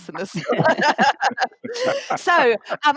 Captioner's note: laughter